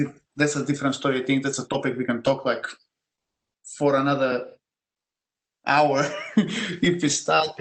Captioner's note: laugh